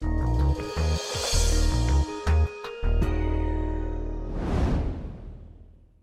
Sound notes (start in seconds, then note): 0.1 upbeat music; 4.2 air whooshing